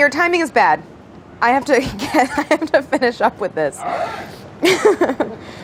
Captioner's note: laughs